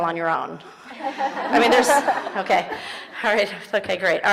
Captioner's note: audience laughing